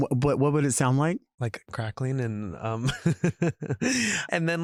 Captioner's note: chuckles